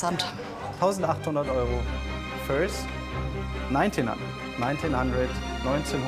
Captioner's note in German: englisch